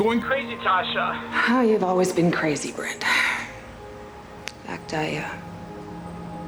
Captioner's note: sighs